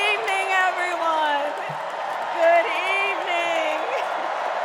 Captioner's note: cheers and applause